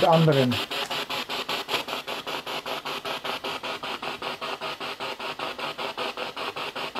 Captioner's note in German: Noise of the spiritbox in the background